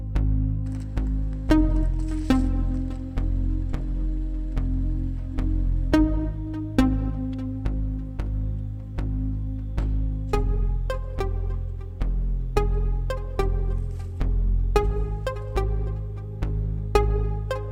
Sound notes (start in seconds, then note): 0.6 asphalt crunching; 5.9 pensive synth music